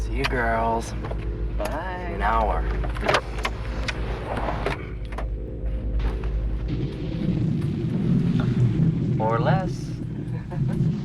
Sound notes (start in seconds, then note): 2.5 buzz; 9.5 thunder